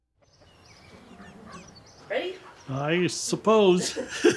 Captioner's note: birds chirping; laughs